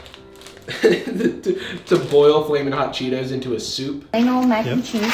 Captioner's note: laughs